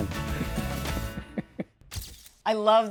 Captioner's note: laughing